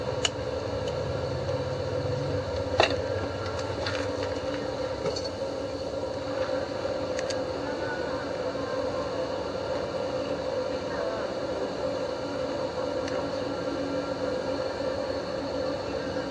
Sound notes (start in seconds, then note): 0.4 tapping; 3.4 fan humming